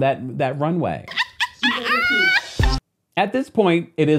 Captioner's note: Kandi laughing